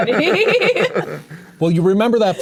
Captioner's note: players laughing